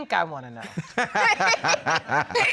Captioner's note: all laughing